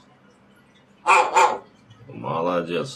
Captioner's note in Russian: Григорий лает